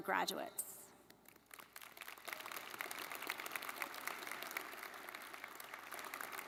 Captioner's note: faculty and students clapping